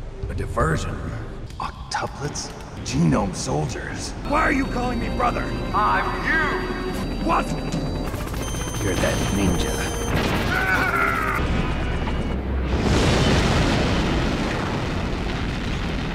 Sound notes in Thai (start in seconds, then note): 11.4 ตูม!!!